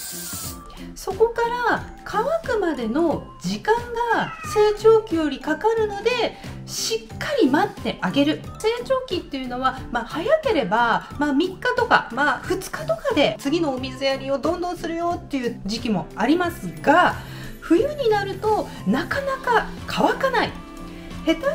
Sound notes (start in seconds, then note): 7.7 meow of a cat